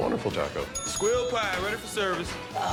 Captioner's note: bell rings